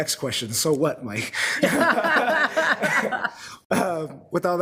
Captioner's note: laughing